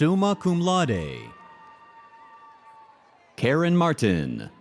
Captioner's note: audience cheers